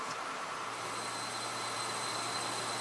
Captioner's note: quiet drone